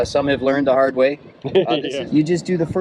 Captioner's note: laughing